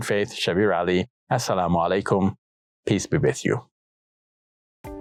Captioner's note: speaks in Arabic